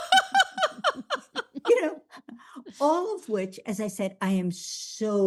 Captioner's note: laughs